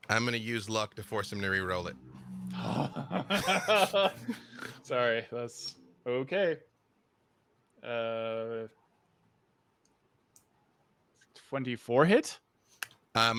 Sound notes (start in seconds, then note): 2.5 laughs